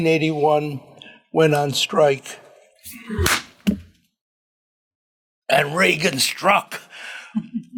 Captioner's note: claps hands